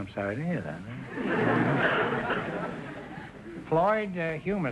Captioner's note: audience laughter